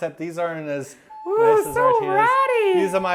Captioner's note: mocking voice